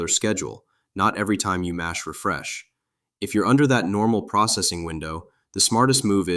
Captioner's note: thoughtful